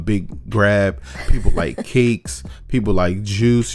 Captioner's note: laughs